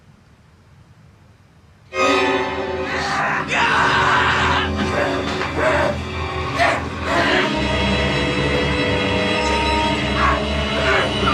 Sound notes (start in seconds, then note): 2.1 sinister music; 2.8 Billy groaning; 7.5 sinister music continues